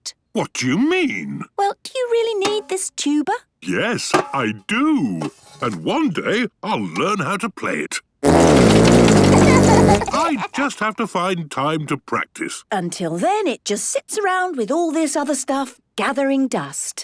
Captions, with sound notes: - What do you mean?! - Well, do you really need this tuba? - Yes, I do! And one day, I'll learn how to play it. (laughter) I just have to find time to practice. - Until then, it just sits around with all this other stuff, gathering dust.